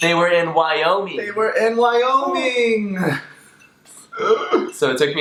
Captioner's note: laughs